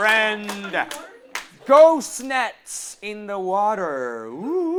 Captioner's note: cue applause